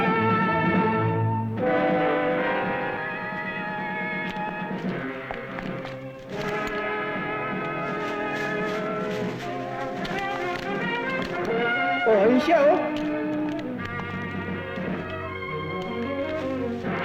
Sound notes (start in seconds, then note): 7.7 rustling; 11.7 non-english speech